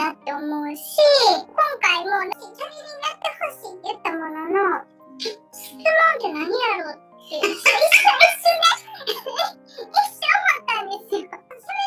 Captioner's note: laughs